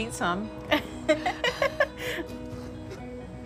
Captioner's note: laughing